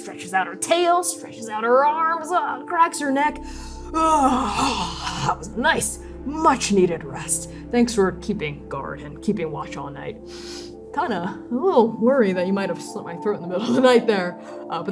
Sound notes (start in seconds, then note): 10.3 sniffing